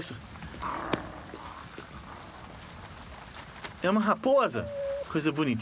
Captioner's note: growls softly